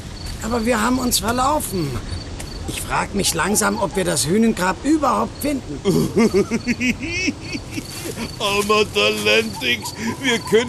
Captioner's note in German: gelächter